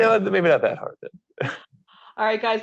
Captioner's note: laughs